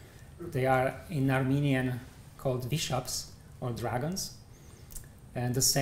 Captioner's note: armenian